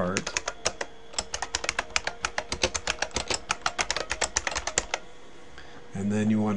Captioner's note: typing